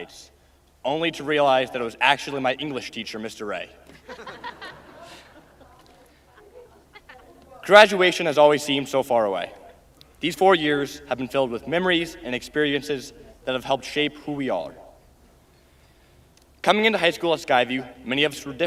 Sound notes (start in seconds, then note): 8.9 laughing